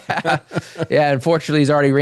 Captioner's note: both Laughing